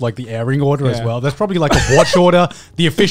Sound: laughing

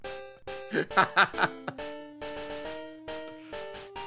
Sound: laughs

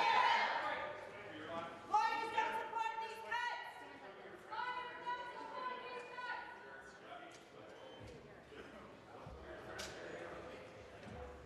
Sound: voices chanting

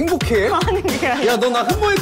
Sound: laughs

